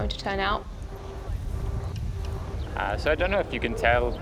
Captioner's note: wind gusts